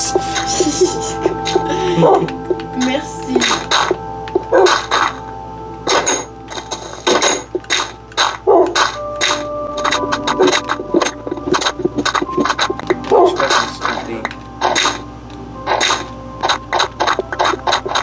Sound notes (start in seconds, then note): 0.4 laugh; 5.6 music and game sound